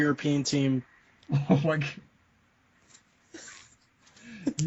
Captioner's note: laughing